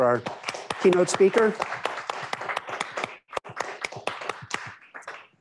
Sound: applause

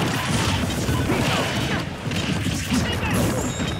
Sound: punchy Noises

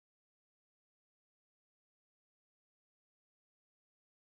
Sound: low rumble

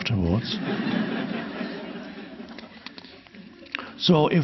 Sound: audience laughing

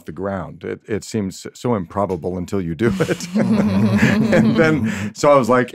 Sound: laughs

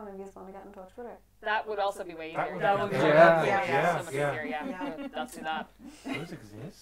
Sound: murmurs of agreement

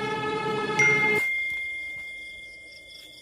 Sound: notification

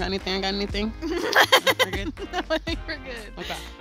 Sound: laughter

